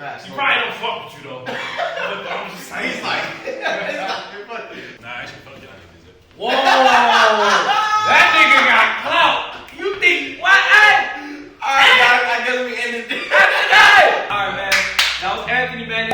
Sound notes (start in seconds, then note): 1.4 both laughing; 1.4 laughs; 6.4 laughing